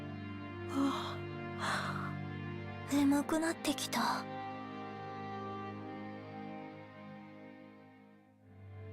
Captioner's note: yawn